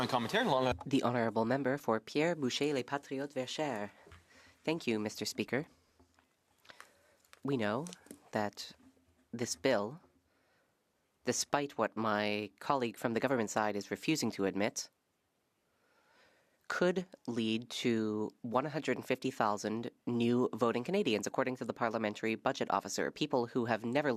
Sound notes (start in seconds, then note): 6.3 speaking French